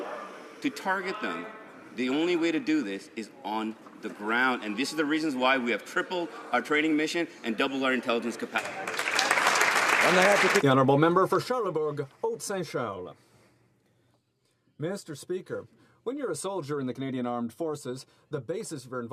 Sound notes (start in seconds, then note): 14.6 speaking French